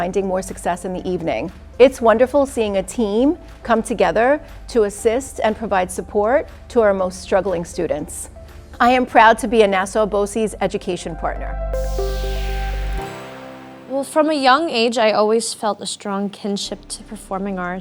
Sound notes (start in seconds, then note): 11.8 air whooshing